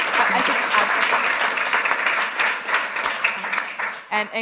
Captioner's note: applause